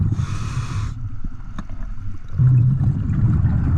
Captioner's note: audible breathing